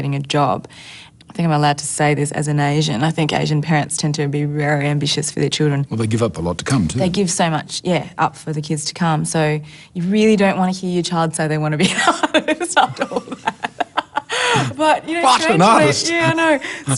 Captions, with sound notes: I think I'm allowed to say this, as an Asian. I think Asian parents tend to be very ambitious for their children. Well, they give up a lot to come, too. They give so much up for the kids to come, so you really don't want to hear your child say they want to be an artist, after all that. (LAUGHS) But you know strangely... What, an artist?! Yeah, I know.